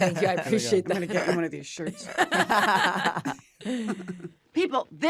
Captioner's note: laughter